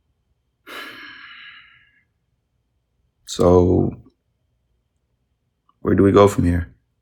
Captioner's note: sighs